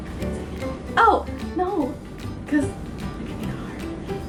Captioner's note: whispers something about harmonies